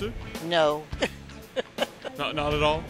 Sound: laughs

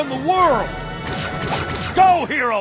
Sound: laser pistol shooting sounds

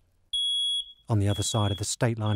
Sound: beeping

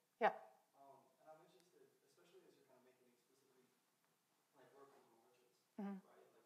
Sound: audience member 3 speaking faintly

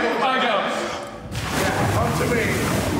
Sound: water splashes

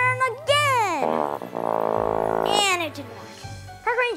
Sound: flat horn

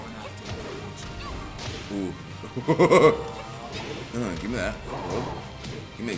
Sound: laugh

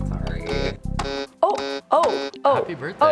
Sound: button buzzing

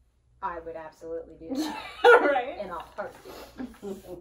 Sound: laughing

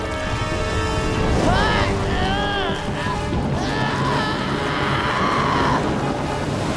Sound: screaming

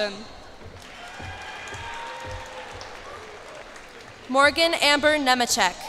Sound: cheers and applause

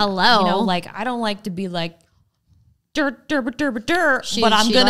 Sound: mouth noises

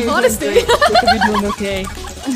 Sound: giggles; mocking

